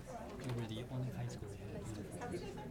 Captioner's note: people chattering